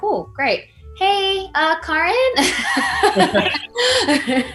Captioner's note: laughs